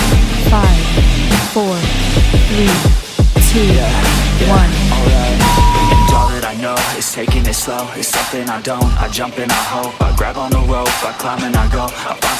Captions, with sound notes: Five, four, three, two, one. (beep) (upbeat music)